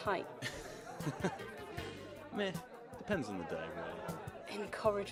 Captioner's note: he laughs